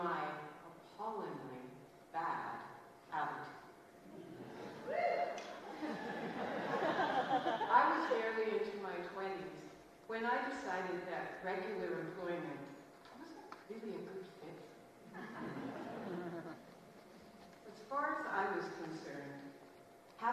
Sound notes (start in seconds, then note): 9.5 laughter